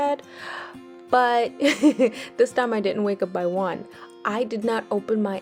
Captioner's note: chuckles